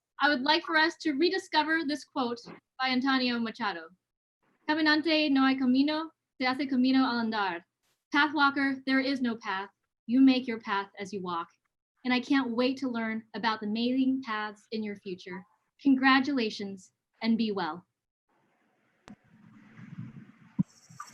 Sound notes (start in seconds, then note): 4.7 non-english speech